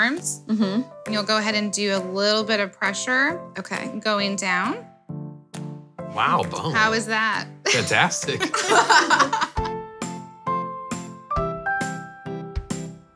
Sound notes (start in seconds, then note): 8.4 women laughing; 9.4 cheery music